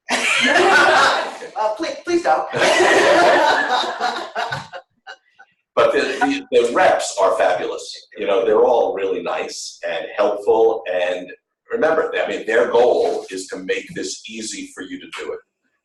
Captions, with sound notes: (laughter) Please don't. (laughter) But the reps are fabulous. You know, they're all really nice and helpful. And remember, I mean, their goal is to make this easy for you to do it.